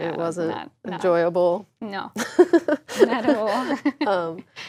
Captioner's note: laugh